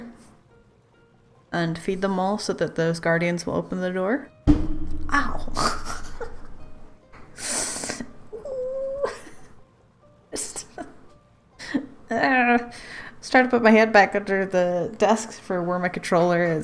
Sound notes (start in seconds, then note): 4.4 banging sound; 8.8 pained laughter